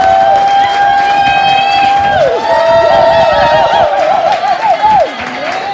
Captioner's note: applause, loud cheers, wooooooo